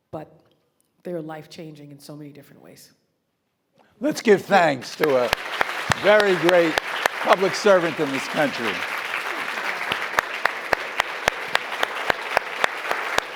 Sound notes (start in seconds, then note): 9.0 audience applauding